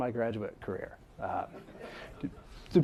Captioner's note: laughter